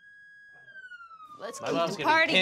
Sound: sirens wailing

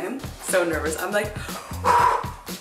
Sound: exhales

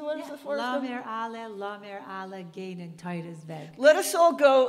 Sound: speaking in Yiddish

